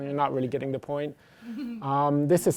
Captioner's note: laughter